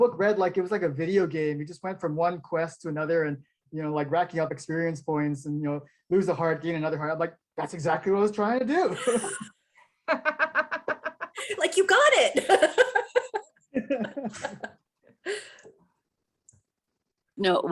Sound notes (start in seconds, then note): 10.0 laughing; 13.7 everyone laughing